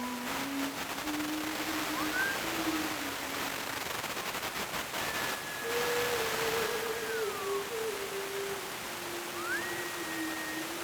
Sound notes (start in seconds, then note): 1.9 Geoff whistling